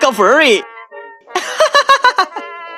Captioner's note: laughs out loud